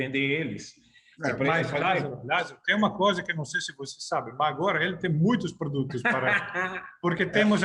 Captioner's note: laughter